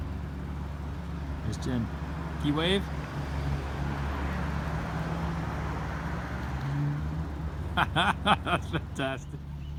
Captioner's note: waving/laughing